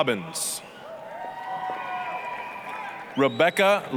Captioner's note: applause, cheering